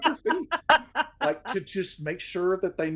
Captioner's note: laughs